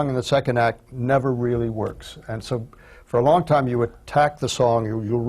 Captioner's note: none